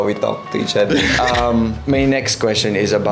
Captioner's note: laughs